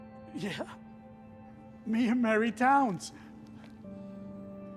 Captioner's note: laughs